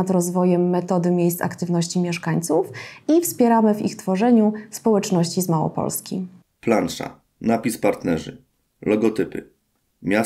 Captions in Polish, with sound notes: nad rozwojem metody Miejsc Aktywności Mieszkańców i wspieramy w ich tworzeniu społeczności z Małopolski. [Głos męski z offu, audiodeskrypcja planszy.]